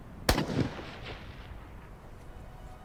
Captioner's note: gun shot